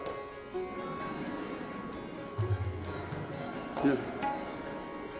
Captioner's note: audience laughing